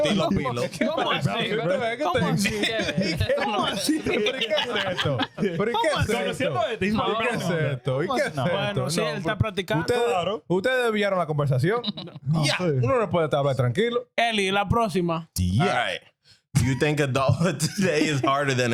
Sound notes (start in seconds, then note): 9.3 laughing; 9.3 speaking In Foreign Language